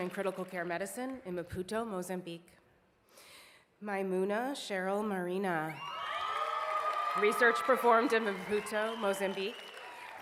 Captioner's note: cheers and applause